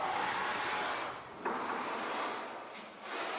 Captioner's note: distant scraping